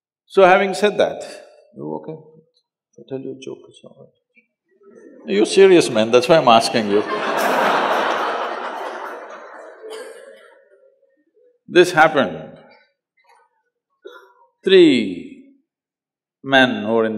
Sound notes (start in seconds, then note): 4.9 few Laugh; 10.6 laughter